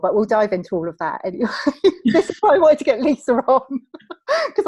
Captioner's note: laughs